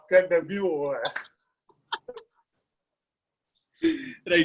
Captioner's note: laughs